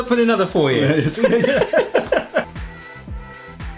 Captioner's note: both laughing; upbeat music continues